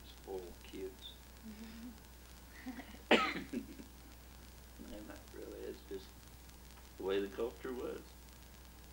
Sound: coughs

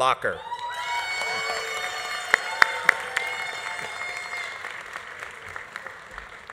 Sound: audience cheering; audience applauding

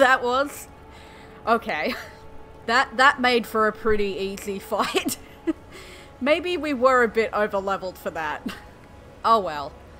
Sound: laughter

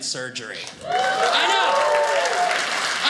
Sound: audience cheers

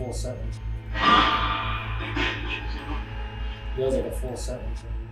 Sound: radio noise reverberating

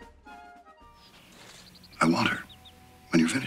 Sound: patriotic music; birds chirping

